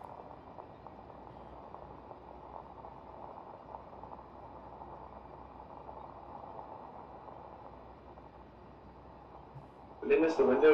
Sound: wheels rolling over gravel

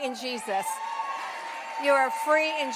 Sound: congregation cheers

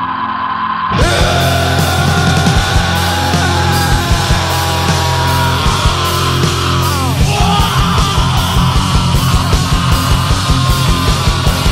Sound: screaming

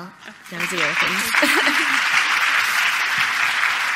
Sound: applause

